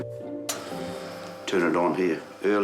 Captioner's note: coffee machine whirrs